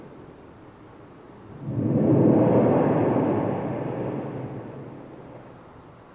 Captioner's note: shri mataji blows into the microphone